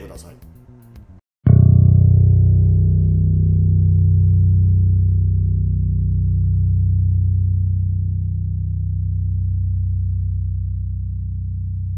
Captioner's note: low-B sound